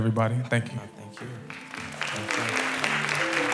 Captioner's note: applause